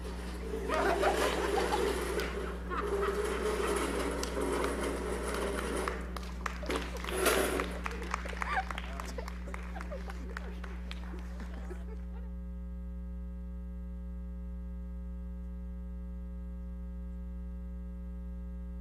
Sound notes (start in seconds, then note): 0.1 furniture screeching; 1.4 audience laughing; 3.4 furniture scraping; 7.5 audience clapping